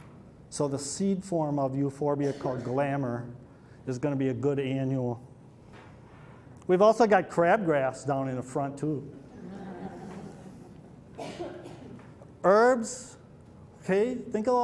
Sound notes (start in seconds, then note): 9.2 laughter